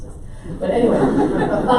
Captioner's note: audience laughs